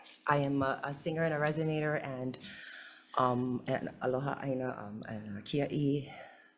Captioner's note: speaks foreign language